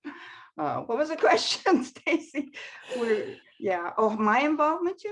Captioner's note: laughs